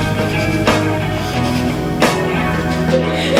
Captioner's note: giggling